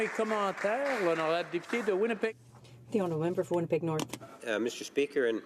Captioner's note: applause